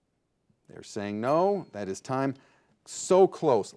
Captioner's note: bell dings